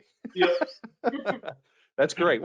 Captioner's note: laughing